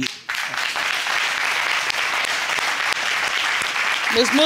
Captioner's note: audience applauding